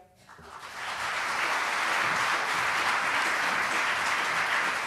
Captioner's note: applause